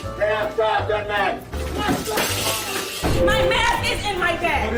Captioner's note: crashing; shouting